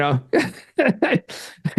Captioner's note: laughs